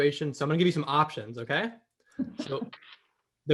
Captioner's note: laugh